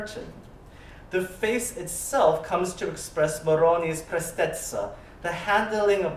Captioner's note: italian